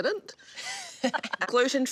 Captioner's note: laughing